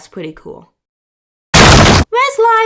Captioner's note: crash!